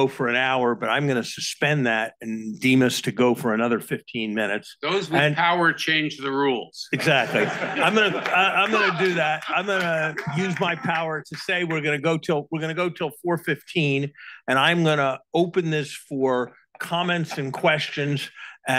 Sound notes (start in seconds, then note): 7.0 all laugh